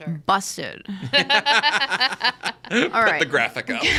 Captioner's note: laugh